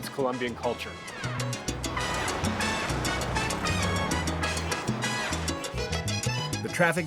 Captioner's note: horns honking